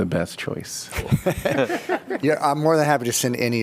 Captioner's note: laughter